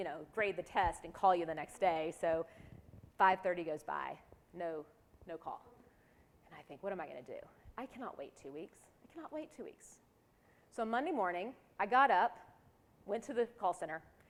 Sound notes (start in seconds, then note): none